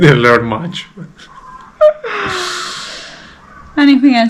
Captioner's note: laugh